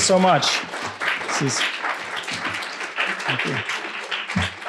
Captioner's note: applause